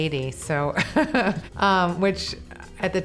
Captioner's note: laughing